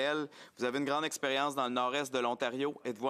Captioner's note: speaking French